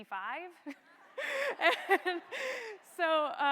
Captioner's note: laugh